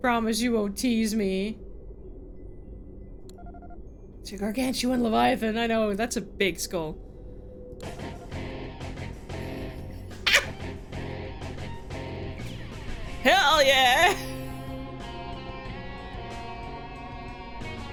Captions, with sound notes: Promise you won't tease me. She gargantuan leviathan, I know, that's a big skull. [laughs] Hell yeah!